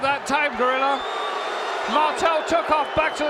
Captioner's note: audience cheering